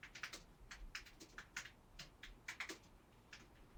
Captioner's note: keyboard clicking